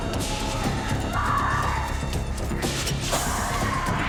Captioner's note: screaming